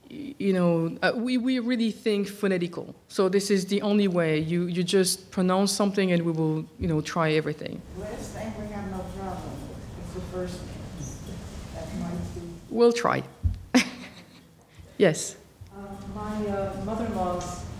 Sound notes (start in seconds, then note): 13.8 laughs